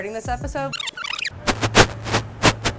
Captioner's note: tape squeaks; static buzzes